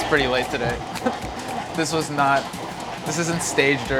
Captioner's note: laughs